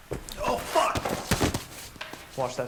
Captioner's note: thud